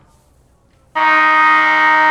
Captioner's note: horn blowing